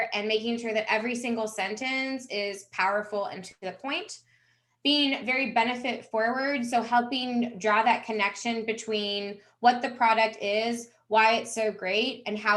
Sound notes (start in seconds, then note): none